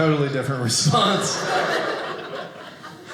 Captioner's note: audience laughing